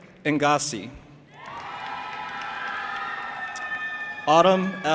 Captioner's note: audience applauding and cheering